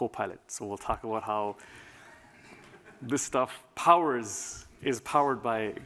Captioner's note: laughter